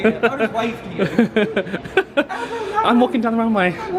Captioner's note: laughs